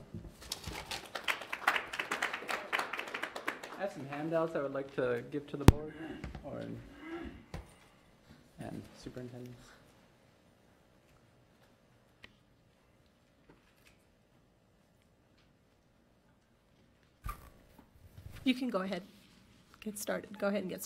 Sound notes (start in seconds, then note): 0.8 audience applauds